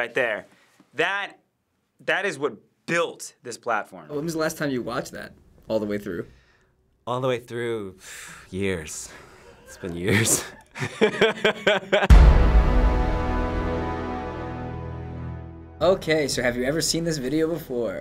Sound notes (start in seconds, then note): 8.0 exhales; 9.5 laughs; 12.1 dramatic chord